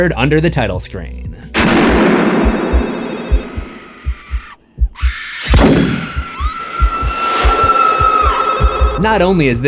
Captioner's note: screams